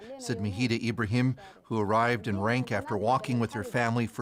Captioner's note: speaking alternate language